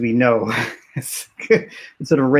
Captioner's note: laughs